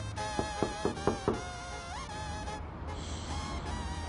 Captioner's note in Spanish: Toques en la puerta